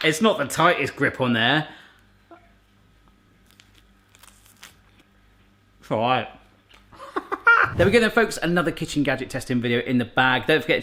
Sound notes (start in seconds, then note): 7.7 laughs